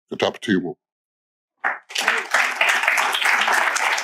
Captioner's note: applause